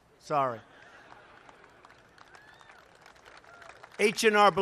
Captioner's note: laughter and applause